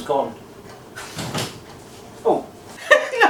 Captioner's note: door clicks